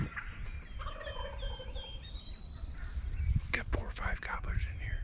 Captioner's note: turkey gobbling